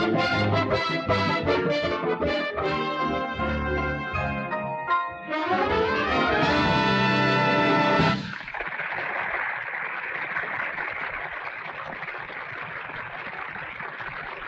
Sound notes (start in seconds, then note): 4.3 bright music; 8.4 audience applauding